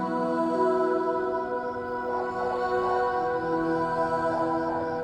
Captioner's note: dog barks in the distance; ethereal music continues